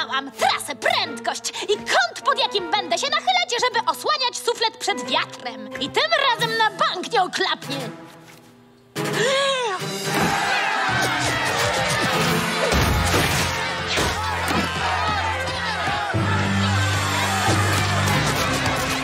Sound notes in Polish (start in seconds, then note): 9.1 wdech